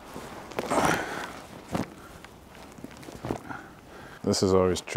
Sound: saddle shuffling

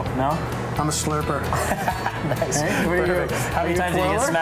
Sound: laughing

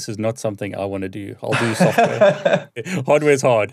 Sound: laughing

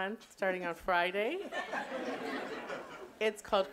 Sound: audience laughing

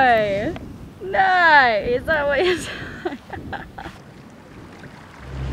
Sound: laughing

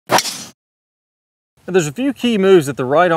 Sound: club smacks

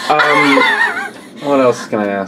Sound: laughs

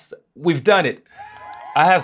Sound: cheering

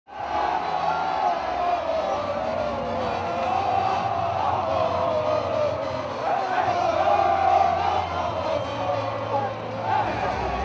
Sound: cheering

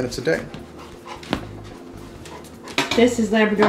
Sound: dog panting

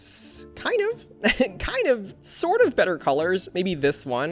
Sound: laughs

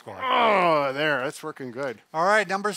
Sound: grunts

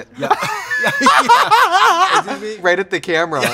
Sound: both laugh

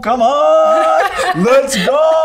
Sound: laughing

